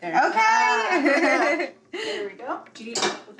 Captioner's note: giggles